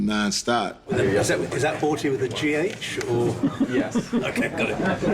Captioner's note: crew chuckling